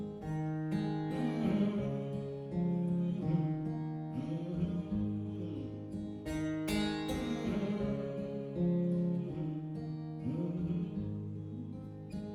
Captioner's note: humming